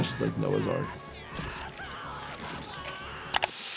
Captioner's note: Lifty yells; Lifty screaming; Lifty's arm tears; inhales sharply